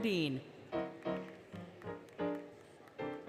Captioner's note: applause, Music